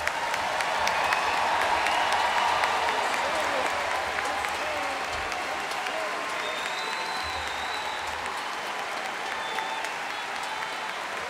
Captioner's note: applause